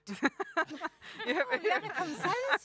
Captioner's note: laughing